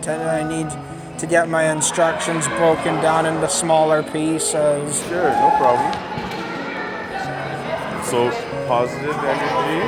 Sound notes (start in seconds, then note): 6.5 shouting and talking